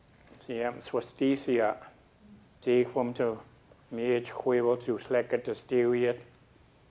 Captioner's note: speaking a local Indigenous language